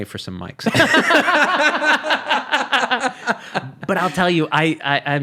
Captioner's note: laughing